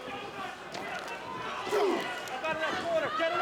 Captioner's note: crowd chatter